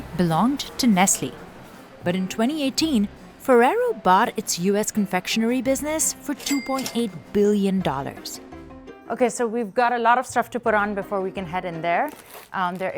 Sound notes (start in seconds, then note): 6.1 cash register ka-chings